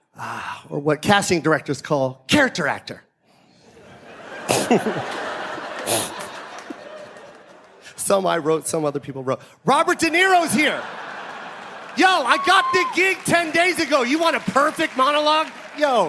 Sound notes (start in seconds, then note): 3.8 audience laughing; 4.4 chuckles; 9.9 audience laughing